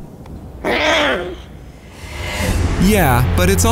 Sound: baby lion roar

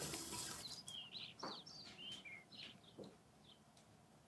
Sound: birds chirping

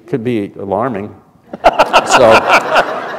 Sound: laughter

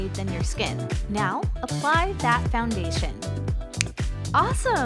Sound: snap

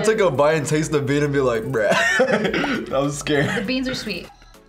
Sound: laughs

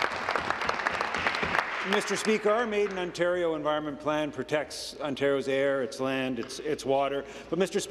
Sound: applause

